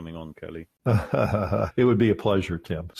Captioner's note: laughing